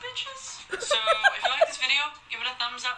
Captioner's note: laughing